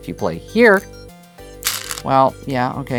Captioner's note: stones rattling